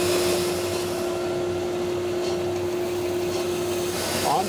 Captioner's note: machine vibrating